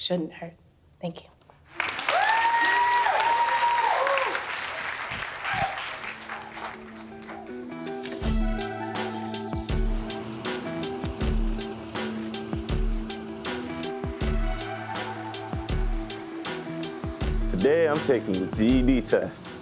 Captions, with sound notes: shouldn't hurt. Thank you. [Loud applause...] Today I'm taking the GED test!